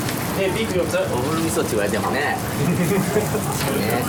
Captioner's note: laughs